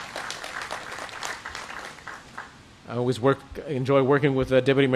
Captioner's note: applause